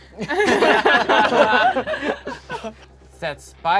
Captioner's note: group laughs